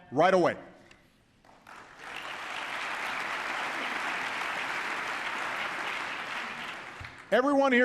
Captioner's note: applause